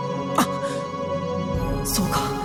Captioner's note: gasp